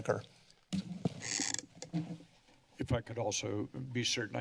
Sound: mic noise

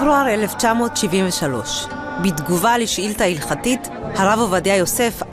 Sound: reporter speaks in Hebrew

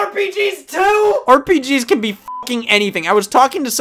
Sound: beep

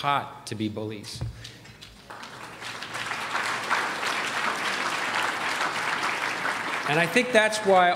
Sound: applause

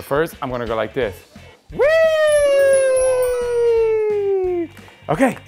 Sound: squealing sound

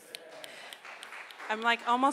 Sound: crowd applauds

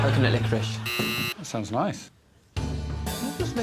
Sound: buzzer rings

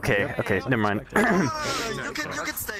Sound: clears throat

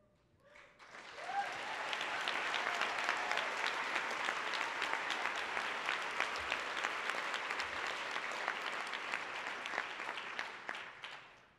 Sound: applause

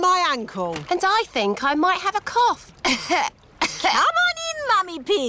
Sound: coughs

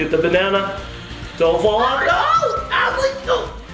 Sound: screams

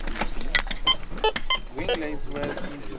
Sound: metal detector beeping

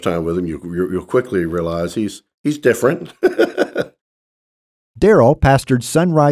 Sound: laughs

